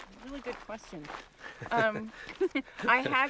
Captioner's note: both laughing